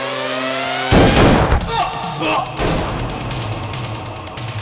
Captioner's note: Gunshot